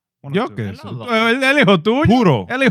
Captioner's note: non-english Speech